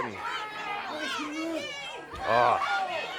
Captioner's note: crowd chatter